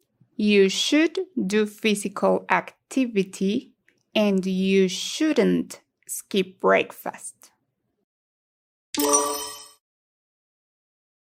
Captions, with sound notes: You should do physical activity, and you shouldn't skip breakfast. [sonido de timbre correcto]